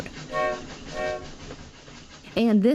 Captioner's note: train hoots